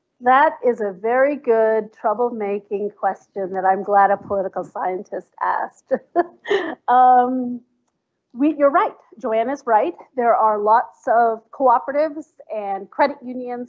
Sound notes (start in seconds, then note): 7.2 laughs